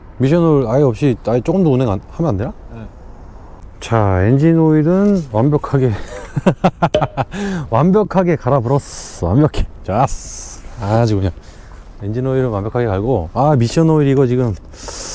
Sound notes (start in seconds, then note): 6.0 laughs